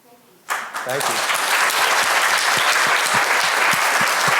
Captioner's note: audience clapping